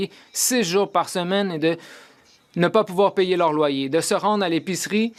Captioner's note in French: voix de l'interprète